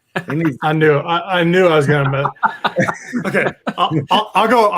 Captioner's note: laughs